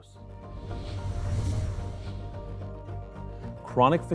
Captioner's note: whooshing